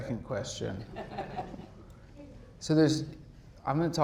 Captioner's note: audience laughs